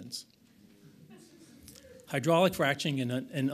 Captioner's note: audience laughs